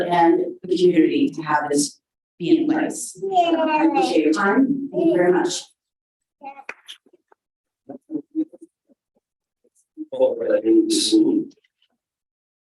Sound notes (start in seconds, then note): 8.1 mumbles